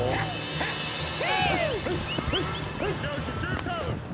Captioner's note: shouting